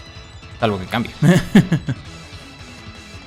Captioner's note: Laughs in possible Jolteon